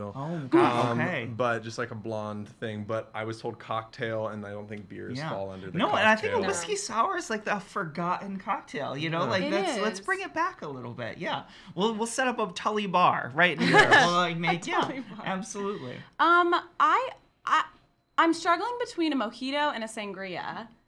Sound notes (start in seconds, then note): 13.6 laughs